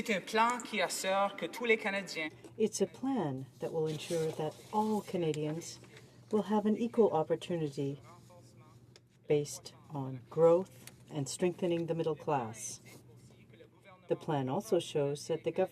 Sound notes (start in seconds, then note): 4.5 speaking in french